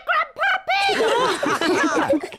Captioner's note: all laugh